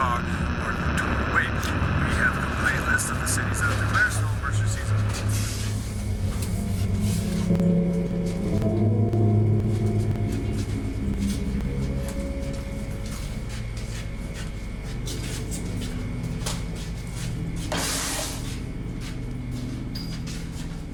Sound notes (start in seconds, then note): 2.9 radio noise buzzes; 6.6 ominous music